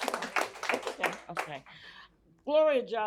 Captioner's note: applause